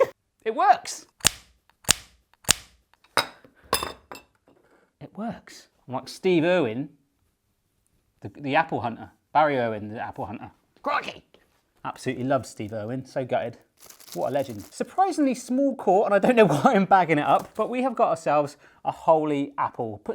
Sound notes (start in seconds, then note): 1.2 metal smacking repeatedly